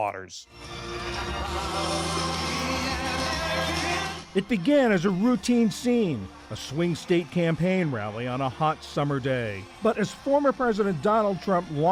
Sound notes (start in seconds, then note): 4.8 voice-over